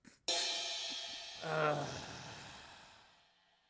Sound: sighs in disappointment

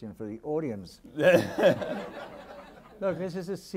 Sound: audience laughing

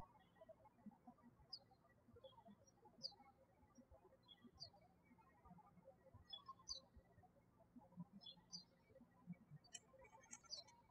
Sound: birds chirping

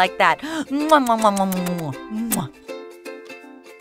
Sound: kissing noises

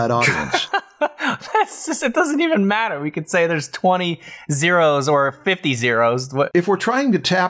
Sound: laughter

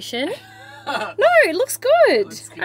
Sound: laughs

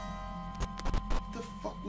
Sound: Static

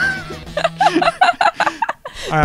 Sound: laughs

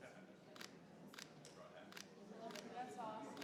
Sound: camera clicking; audience chattering

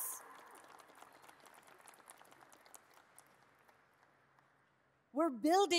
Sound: audience applauds

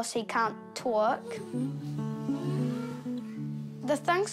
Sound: chatters

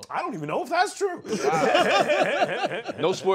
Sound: laughter

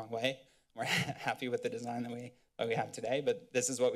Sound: giggles

